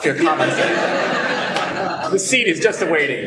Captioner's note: laughter